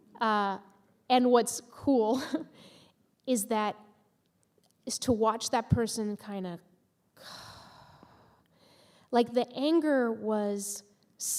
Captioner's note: sighing